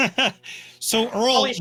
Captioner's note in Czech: smích; sténání